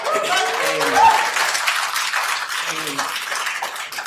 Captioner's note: attendees applauding